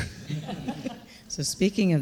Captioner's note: panelists laughing